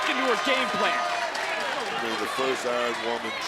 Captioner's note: audience cheers